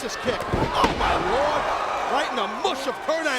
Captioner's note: mat thumping